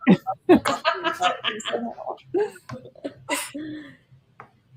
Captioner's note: laughter